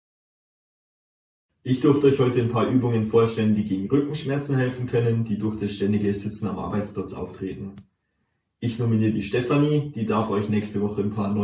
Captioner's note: narration in German